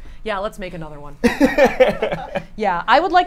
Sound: laughs

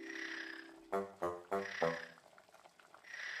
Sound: snoring; snoring

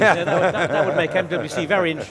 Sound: laughs

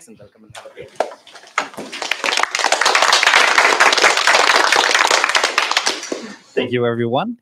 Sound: applause

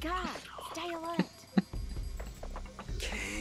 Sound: laughs

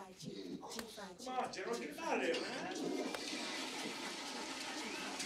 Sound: girls Chanting; toilet Flushes

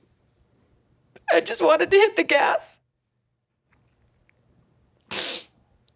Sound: cries

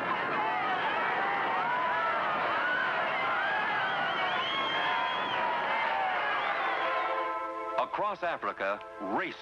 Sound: cheering

